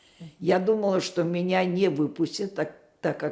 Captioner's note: none